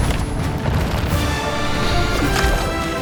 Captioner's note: players groaning